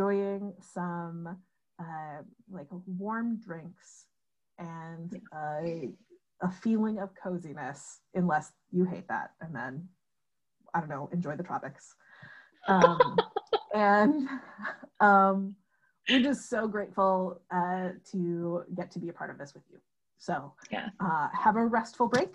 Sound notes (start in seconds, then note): 12.7 laughter